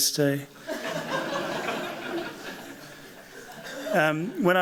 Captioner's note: laughter